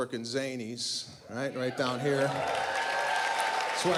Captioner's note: applause